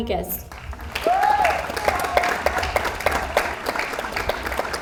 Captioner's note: audience applauds